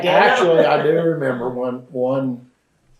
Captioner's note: laughs